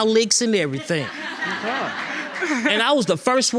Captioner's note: audience laughing